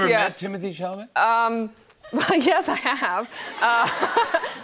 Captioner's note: laughter